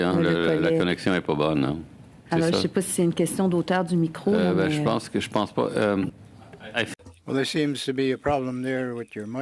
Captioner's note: speaking French